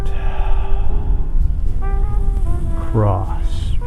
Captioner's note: exhaling